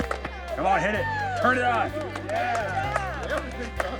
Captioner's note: applause